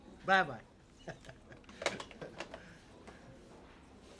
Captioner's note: chuckles